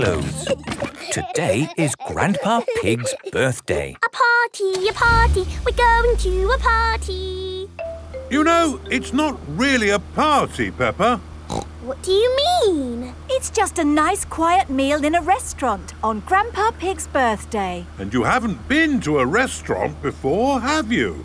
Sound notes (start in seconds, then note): 0.0 giggling; 3.8 sing song voice